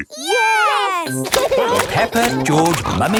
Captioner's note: laughing